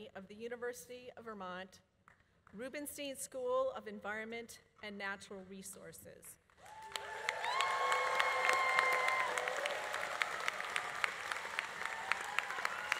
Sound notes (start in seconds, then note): 6.6 audience applauding; 6.6 audience cheering